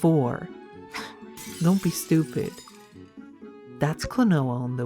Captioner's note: glass breaks